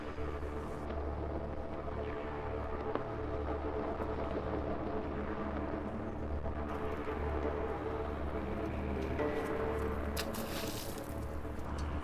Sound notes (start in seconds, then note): 0.6 Union Flag fluttering in the wind